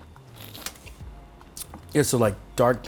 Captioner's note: slurps